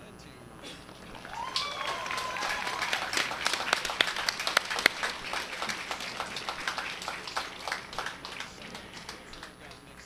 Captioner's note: cheering and applause